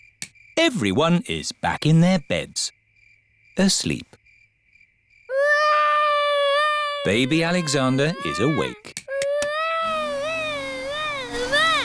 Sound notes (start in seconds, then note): 5.3 baby alexander crying; 9.8 vacuum cleaner whirring